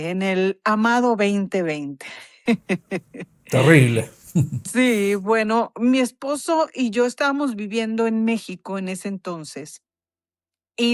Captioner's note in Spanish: risas